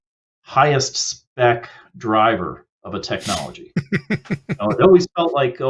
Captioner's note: laughs